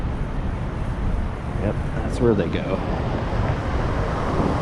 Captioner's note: scooters